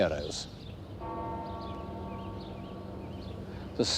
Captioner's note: bell tolls